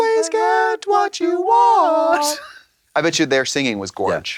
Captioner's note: blonde Women in unison